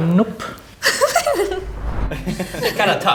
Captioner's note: giggles